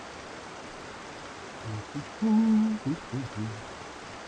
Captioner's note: huming